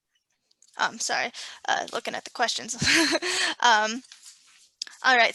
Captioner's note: laughs